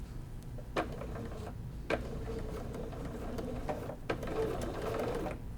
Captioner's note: sewing machine rumbling